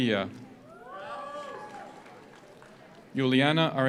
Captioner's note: audience cheers; audience applauds